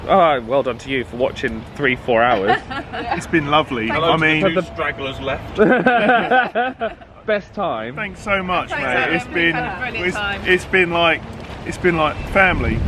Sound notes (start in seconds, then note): 5.3 all laughing